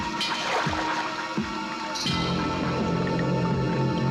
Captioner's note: water sloshing